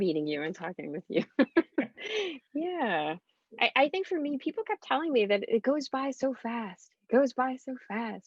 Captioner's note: chuckles